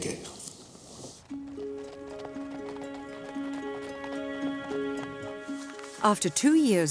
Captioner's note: hooves clopping; tense music